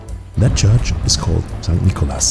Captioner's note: none